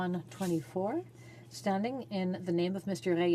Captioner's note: speaking French